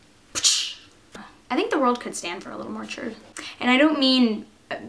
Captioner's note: whip cracking noise